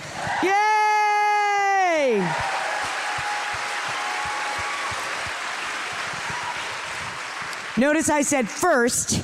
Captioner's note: cheers